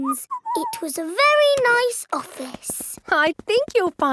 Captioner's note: whistles